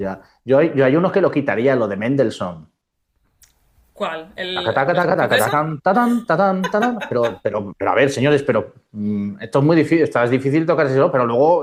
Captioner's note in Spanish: risas